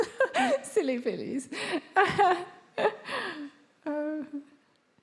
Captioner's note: laughs